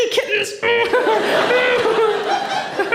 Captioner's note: laughter